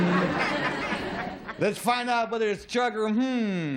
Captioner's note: laughter